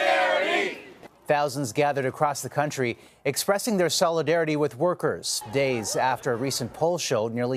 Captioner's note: chanting